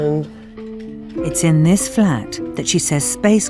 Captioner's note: voiceover